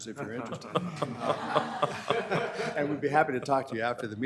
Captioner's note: board members laughing